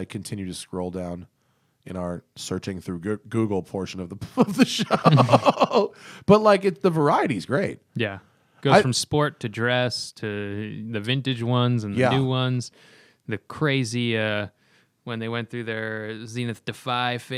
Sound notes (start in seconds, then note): 4.3 laughter